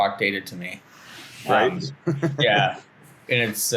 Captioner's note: laughs